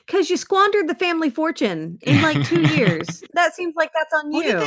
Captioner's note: laughs